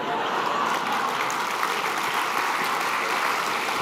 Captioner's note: applause